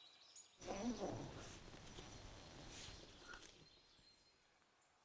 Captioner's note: birds chirping; tent unzipping